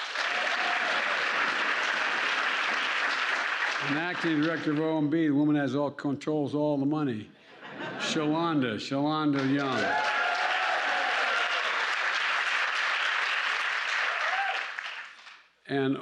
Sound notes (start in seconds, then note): 0.0 applause; 7.4 laughter; 9.2 applause